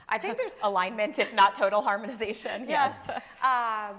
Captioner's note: chuckling; chuckling